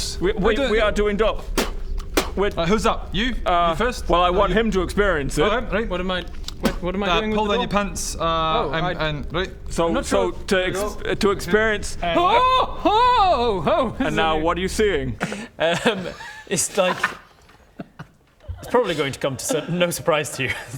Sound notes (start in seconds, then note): 1.5 spit; 6.2 spit